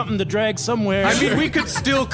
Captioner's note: audience and cast laughter